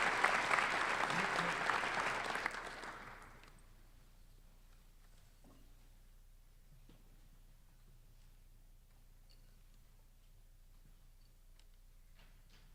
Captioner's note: applause